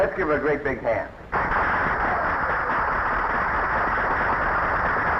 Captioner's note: audience applauding